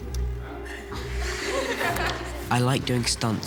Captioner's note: crowd laughs